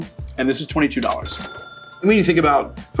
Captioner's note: cash register ringing